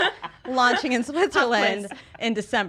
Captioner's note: laughs